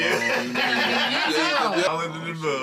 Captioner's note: laughter